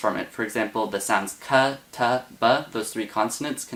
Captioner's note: speaks Arabic